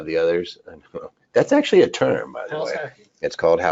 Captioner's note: chuckles